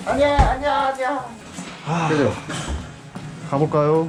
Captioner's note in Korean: 깊은 한숨